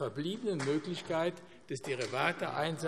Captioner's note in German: none